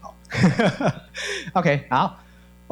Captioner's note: laughing